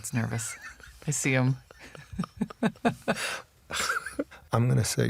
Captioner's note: laughter